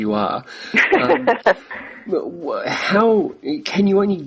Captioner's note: laughs